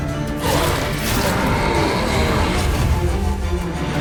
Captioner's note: wraith howls